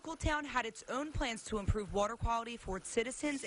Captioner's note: water running